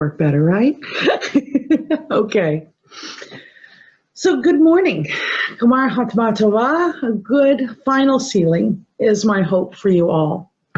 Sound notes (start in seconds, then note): 0.9 laughs